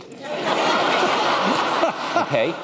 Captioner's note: laughter